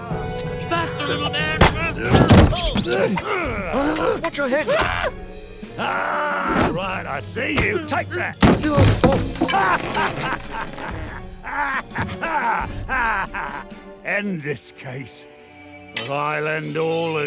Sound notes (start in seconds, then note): 4.7 Sherblock shrieks; 5.7 yelling; 8.5 trap creaks; 8.7 Blockson groans; 11.4 Moth Napper laughs